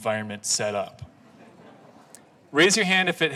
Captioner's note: laughing